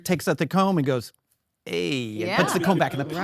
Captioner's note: audience laugh